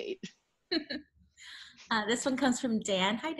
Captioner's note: chuckles